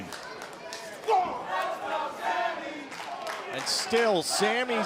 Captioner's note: crowd cheering